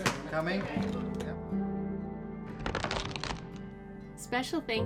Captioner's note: knife crunching through lobster